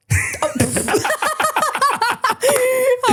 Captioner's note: people laughing